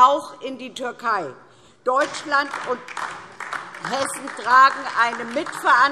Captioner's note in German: Beifall DIE LINKE